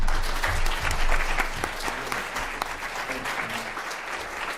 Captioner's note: applause